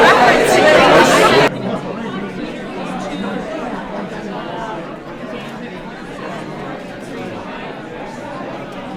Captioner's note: crowd noise